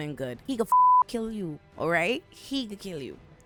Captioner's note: beep